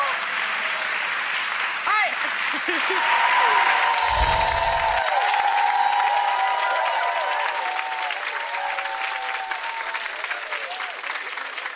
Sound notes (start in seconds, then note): 0.1 audience applauds; 2.6 audience cheers; 4.0 magical chime; 8.6 magical chime